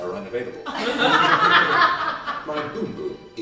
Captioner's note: laughter